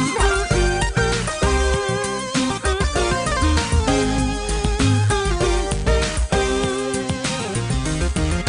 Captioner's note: humming to the beat